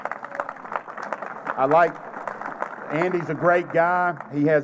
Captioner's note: applause